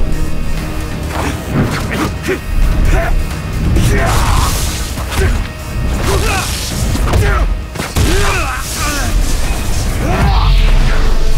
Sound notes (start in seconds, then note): 1.7 both grunt; 3.8 Jin yells